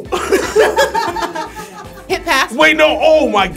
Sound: laughs

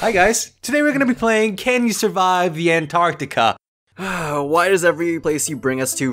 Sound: sigh

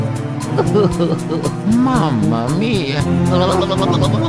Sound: luigi crying

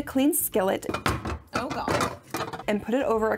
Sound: skillet rattling

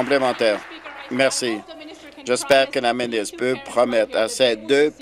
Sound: applause

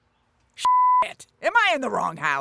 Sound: beep

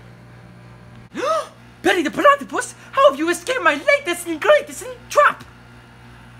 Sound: gasps

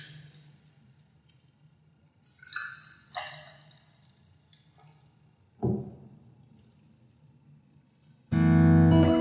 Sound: pouring and drinking; music outro

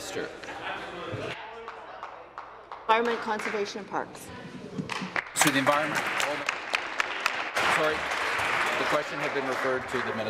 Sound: voice fading

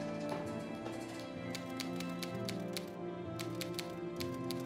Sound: typing

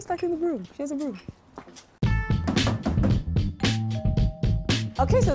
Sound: knock on door, doorbell rings

